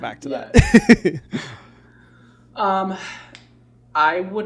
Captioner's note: laughs